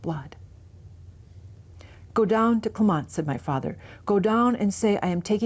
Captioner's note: speaks Ojibwe